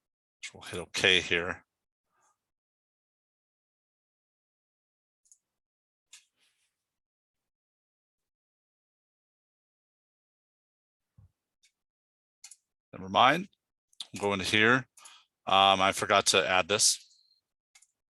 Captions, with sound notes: We'll hit OK here. (mouse clicking) Nevermind. I'm go into here. I forgot to add this.